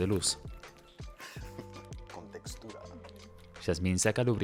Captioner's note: ríe